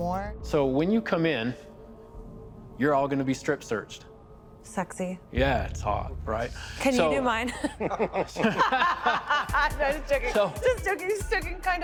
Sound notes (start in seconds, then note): 7.4 group laughing